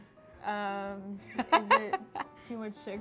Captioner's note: laughter